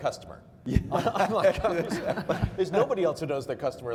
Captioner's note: laughing